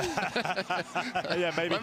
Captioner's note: laughing